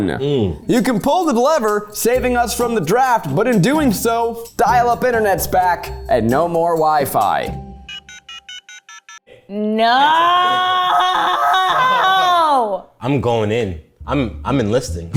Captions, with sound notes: You can pull the lever, saving us from the draft, but in doing so, dial up internet's back and no more wifi. (phone beeps) - No! - I'm going in. I'm enlisting.